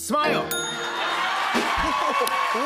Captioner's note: bell dings